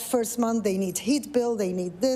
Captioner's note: none